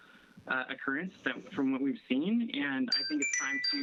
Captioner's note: chime